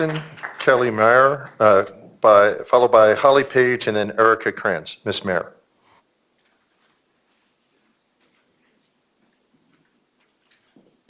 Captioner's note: applause